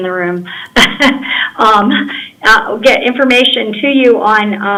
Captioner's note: laughter